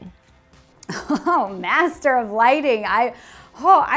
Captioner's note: chuckles